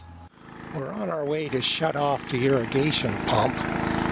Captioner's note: small engine sound